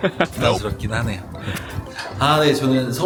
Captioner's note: laughter; playful sound effect